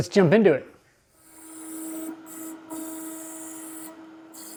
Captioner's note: machine whirring